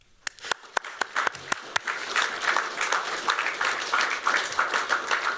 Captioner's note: applause